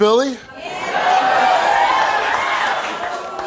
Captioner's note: audience cheers